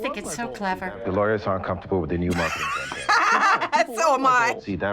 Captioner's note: laughs